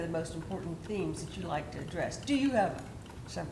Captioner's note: none